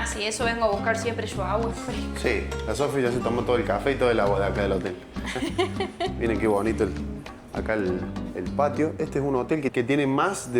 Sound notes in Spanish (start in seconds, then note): 5.2 risas